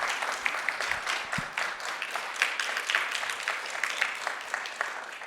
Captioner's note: audience applauding